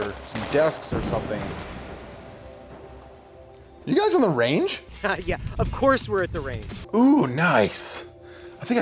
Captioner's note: explosion